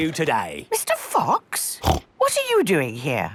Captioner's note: snorts